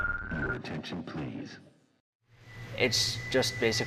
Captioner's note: voiceover